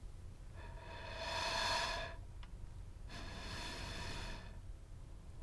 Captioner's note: lungs inhaling and exhaling